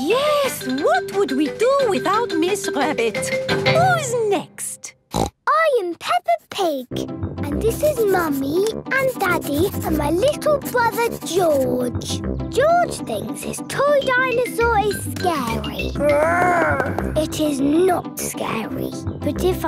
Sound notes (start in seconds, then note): 5.1 snorts; 16.0 growls